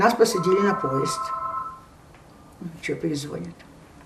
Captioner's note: phone ring